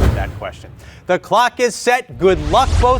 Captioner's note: slide whooshing